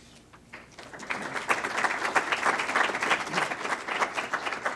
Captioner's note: clapping